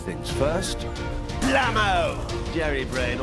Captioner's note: gunshot